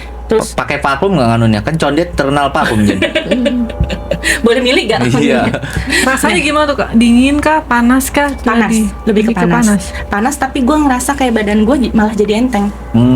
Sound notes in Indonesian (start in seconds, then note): 2.6 tertawa